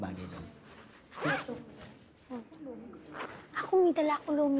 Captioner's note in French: indistinct chatter